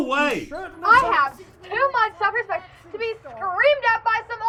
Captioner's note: yells